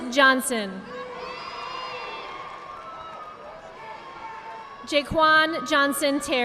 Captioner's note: audience applauding